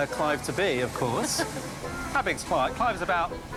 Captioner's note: laughs